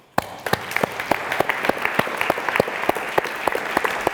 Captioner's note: audience applauds